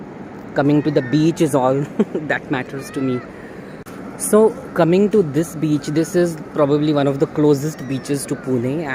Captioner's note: chuckles